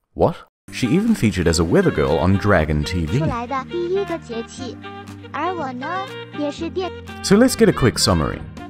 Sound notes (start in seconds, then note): 3.2 random fake vocaloid girl pretending to speak in mandarin